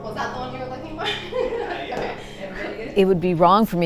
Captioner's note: laughs